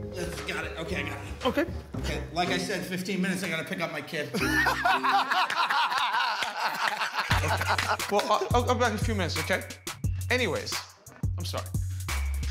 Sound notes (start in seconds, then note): 4.3 laughter